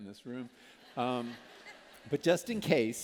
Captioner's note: laughter